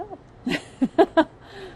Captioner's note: laughs